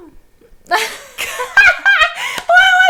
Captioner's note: laughing